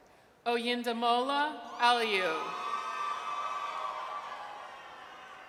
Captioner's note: audience cheers